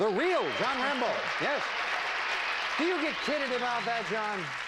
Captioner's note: audience applauding